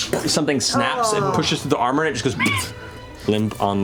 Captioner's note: squeaks